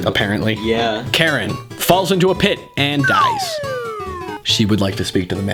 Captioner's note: cartoon falling sound